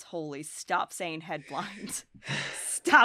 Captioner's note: chuckles